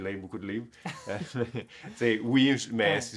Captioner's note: laughs